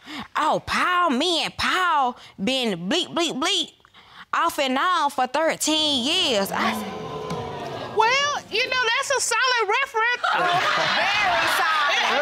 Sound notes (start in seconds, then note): 6.5 audience groaning